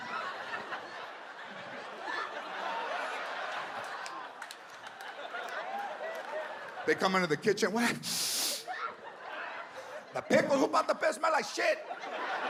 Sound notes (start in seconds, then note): 0.0 audience laughs; 8.0 sniffs